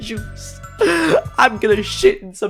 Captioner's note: inhales